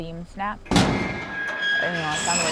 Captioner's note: snap, metal creaking